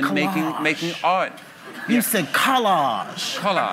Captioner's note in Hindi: हँसी